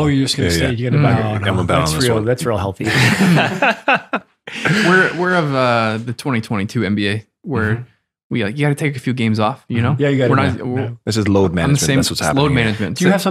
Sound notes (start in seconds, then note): 2.8 friars laugh